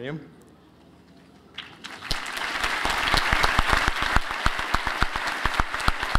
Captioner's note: applause